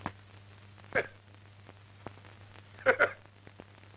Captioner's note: laughing